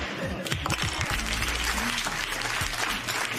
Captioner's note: applause